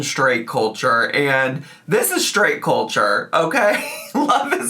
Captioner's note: laughing